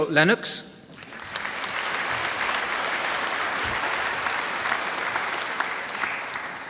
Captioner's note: applause